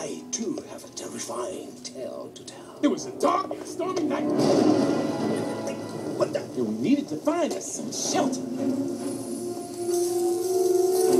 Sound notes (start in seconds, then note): 4.1 thunderclap